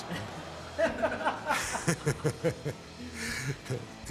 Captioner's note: group laughing